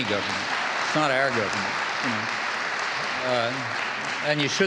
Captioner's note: audience applauding